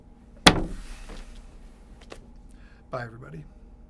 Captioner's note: table thuds